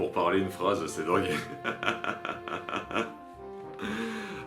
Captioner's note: laughs